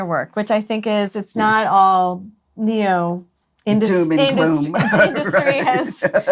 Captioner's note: laughs